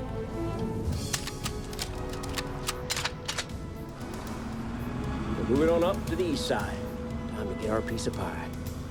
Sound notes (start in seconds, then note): 0.1 suspenseful music; 1.0 guns cocking